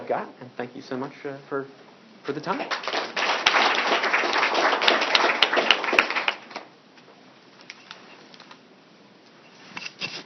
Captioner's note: applause